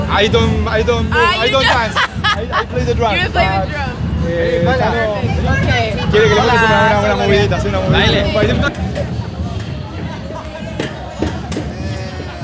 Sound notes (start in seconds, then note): 1.5 laughing; 7.9 answers in Spanish